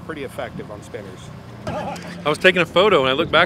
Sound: chuckling

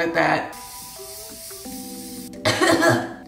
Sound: bottle spraying; coughing

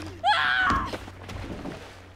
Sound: splash

